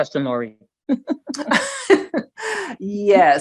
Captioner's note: laugh